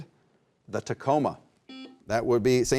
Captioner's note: buzzer beeps